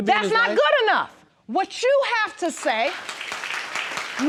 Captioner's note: audience applauding